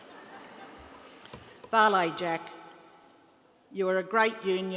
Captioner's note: laughter